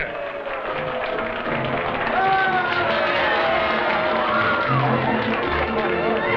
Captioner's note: partygoers cheering and applauding